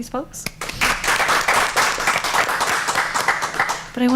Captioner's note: applause